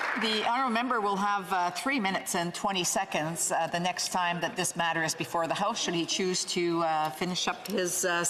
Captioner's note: applause